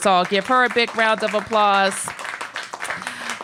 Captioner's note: applause